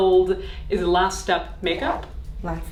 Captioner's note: air whooshing